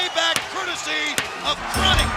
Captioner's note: crowd cheering